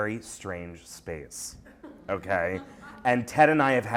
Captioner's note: laughter